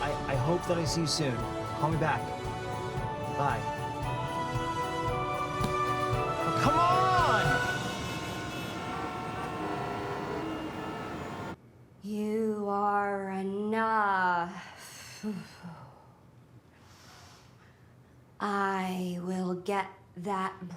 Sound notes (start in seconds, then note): 4.2 soaring upbeat music; 8.1 horns honking